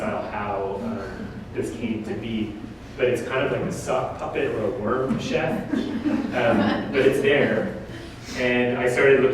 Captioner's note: audience: Laughter